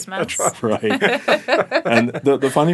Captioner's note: laughing